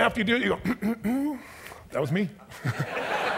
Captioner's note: clears throat confidently; audience laughs